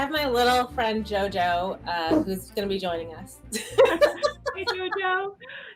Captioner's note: laughs